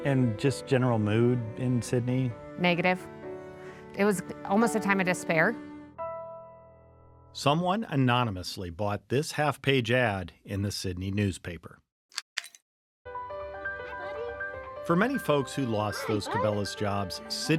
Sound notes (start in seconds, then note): 12.2 light switch clicking; 13.1 playful music